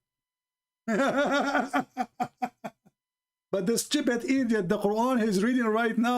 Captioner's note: Ketawa